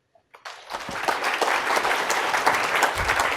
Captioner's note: applause